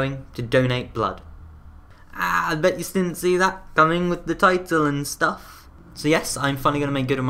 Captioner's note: aaah